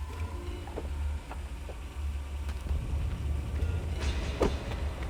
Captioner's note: door opens; door slams